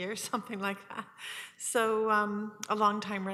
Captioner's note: chuckles